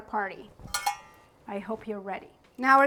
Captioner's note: metal clanking